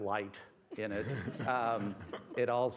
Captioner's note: laughter